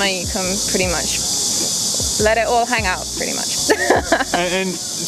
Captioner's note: laughs